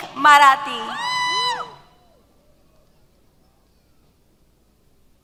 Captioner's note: cheers